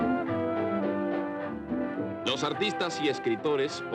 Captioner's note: speaking Spanish